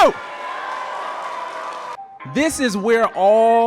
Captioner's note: crown cheering